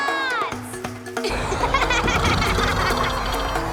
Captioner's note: laughing